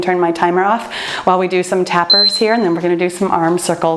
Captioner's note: timer beeps